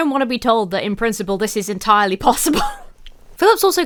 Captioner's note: laughs